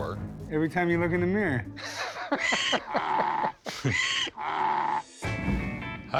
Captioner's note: laughs; donkey braying